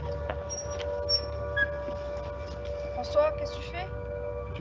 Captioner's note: door creaking